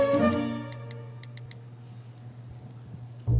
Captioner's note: typing